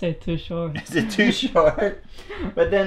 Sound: laughs

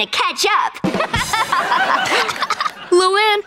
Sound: laughing

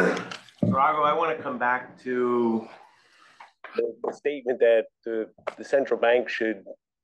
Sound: cough

